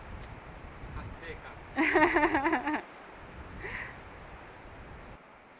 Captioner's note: laughs